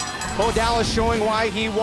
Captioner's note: bell ringing